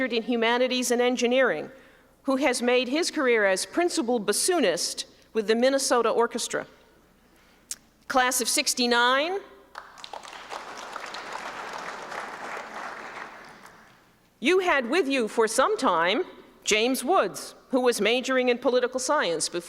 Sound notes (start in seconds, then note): 9.7 applause